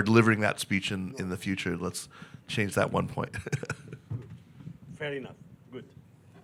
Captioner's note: chuckles